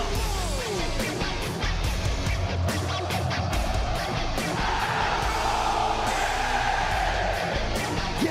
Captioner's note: crowd cheering